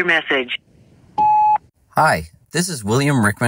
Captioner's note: tone beeps